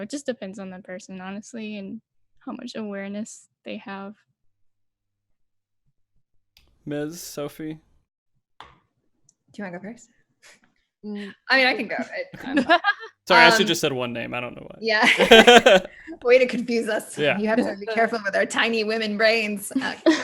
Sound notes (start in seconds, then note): 15.2 laughs